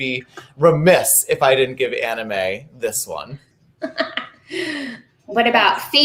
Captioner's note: laughing